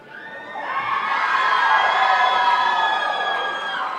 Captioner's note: crowd cheering